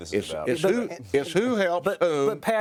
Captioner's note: pat